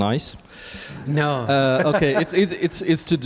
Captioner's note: laughs